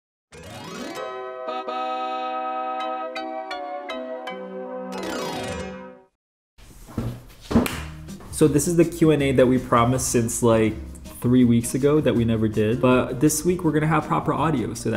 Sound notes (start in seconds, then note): 0.3 logo trilling; 2.0 upbeat music; 4.9 logo trilling; 7.6 hands clapping